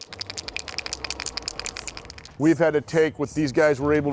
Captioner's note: can shaking